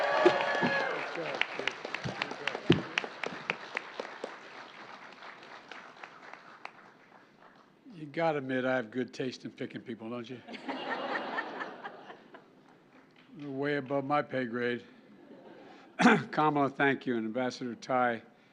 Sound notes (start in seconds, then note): 4.7 applause